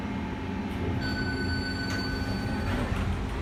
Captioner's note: elevator Chimes